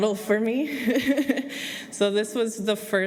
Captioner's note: laughter